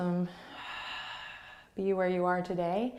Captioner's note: exhaling